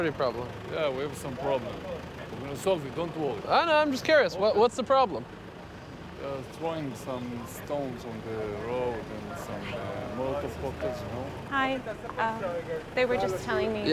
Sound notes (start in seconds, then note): 8.0 whispering